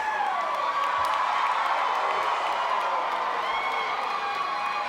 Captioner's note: crowd cheers